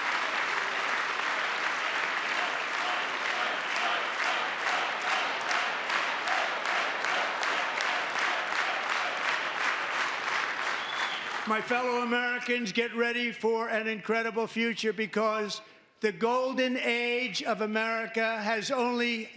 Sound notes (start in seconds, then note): 0.3 applause; 2.8 cheering; 5.4 chanting